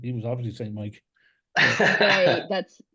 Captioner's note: laughs